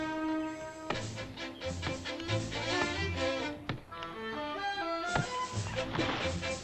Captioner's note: suspenseful music; chopping sounds; thump